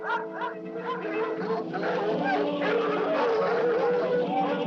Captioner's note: barking; dogs Barking